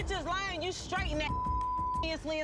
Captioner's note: beep